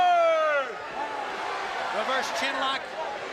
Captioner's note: crowd cheering